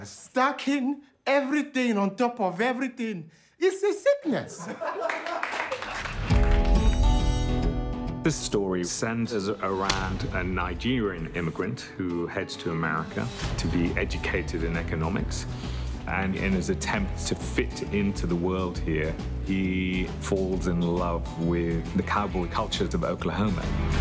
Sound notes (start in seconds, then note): 4.5 laughter